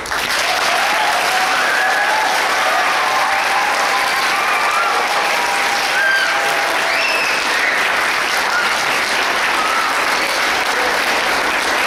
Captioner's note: audience clapping